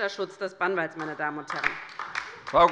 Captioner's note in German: Beifall bei der LINKEN